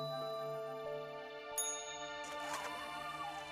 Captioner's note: elevator bell dings